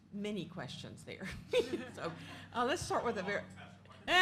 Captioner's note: laugh